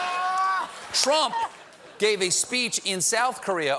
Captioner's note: laughter